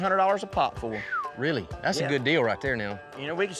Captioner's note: whistles